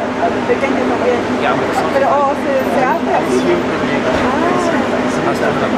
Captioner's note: in Spanish